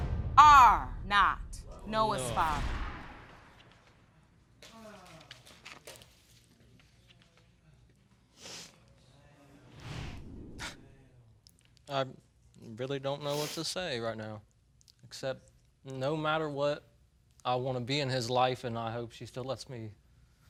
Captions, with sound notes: are not Noah's father. No. (SIGHS) I really don't know what to say right now, except, no matter what, I wanna be in his life and I hope she still lets me